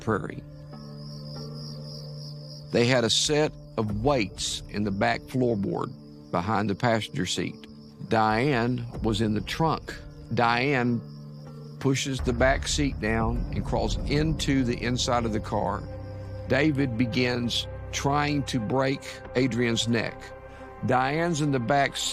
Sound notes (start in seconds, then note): 2.3 insects chirping